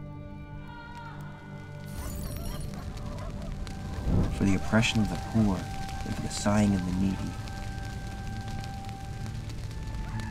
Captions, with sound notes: (glass breaking and fire burning) For the oppression of the poor, and for the sign of the needy,